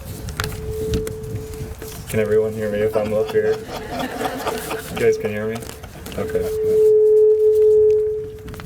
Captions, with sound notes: Can everyone hear me if I'm up here you guys can hear me okay? [slight laughter]